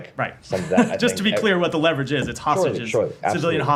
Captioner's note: laughter